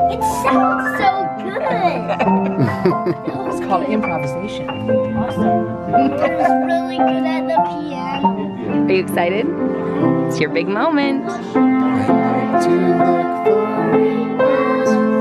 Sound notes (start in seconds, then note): 1.4 laughs